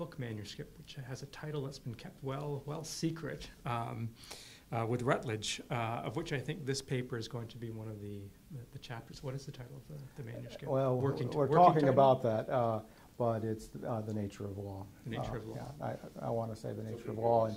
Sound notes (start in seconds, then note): 15.0 voiceover